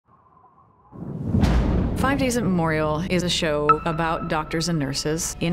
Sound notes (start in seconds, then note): 0.9 lightning; 0.9 thunder